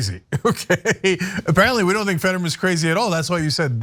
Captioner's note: laugh